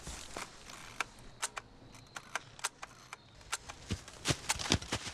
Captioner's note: camera shutter clicks several times